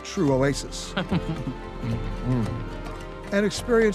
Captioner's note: laughs